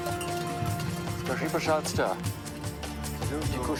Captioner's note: speaking Romanian